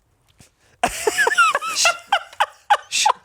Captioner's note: laughs